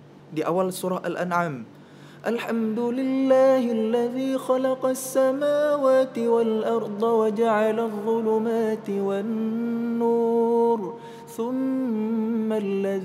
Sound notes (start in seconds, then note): 2.0 reciting quran